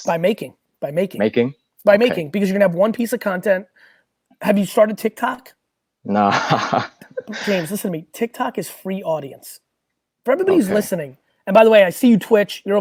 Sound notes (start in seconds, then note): 6.1 laughs